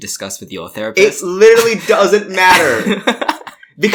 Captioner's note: laughs